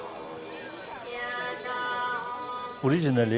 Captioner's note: bells jingling